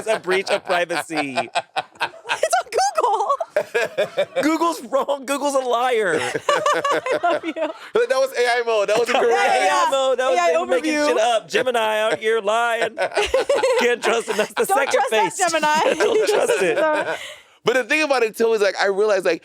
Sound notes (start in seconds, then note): 3.7 Monét laughing; 6.0 all laughing; 13.1 laughing